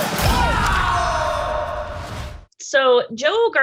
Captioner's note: screaming